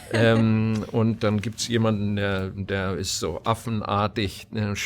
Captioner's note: chuckling; foreign language